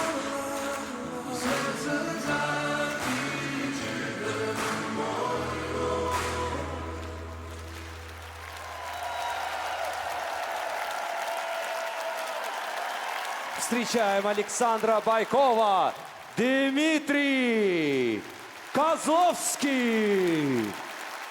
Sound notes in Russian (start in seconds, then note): 13.6 аплодисменты; 13.6 ликование; 19.4 аплодисменты